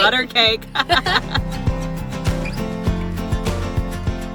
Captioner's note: laughs